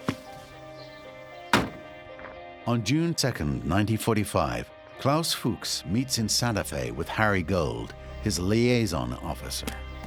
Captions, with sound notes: [car door shuts closed] On June 2nd, 1945, Klaus Fuchs meets in Santa Fe with Harry Gold, his liaison officer.